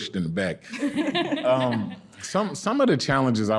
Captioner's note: laughing